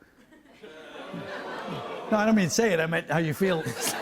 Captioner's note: audience oohs; laughter